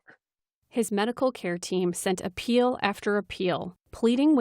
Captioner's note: voice-over